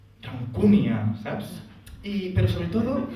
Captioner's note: in catalan